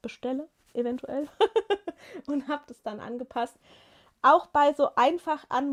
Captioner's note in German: gelächter